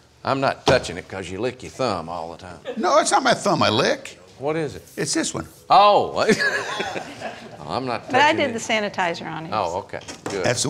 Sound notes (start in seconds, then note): 6.2 laughing